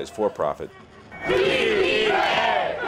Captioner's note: chanting